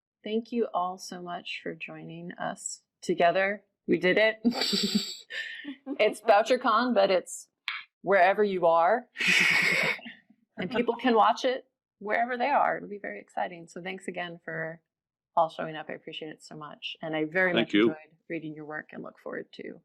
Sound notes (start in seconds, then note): 4.4 laughing; 9.2 laughing